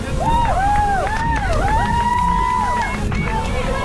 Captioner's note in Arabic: هتاف